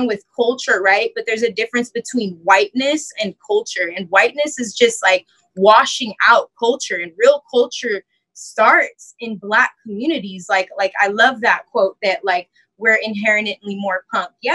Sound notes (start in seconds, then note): none